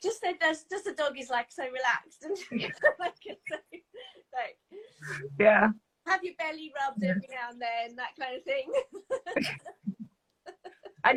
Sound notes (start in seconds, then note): 2.4 both laughing; 8.7 laughs